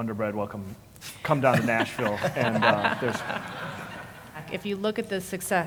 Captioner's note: laugh